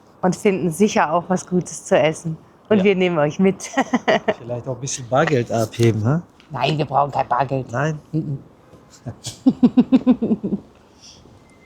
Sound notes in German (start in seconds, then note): 3.6 gelächter; 7.9 gelächter